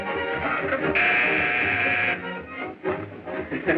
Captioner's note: buzzing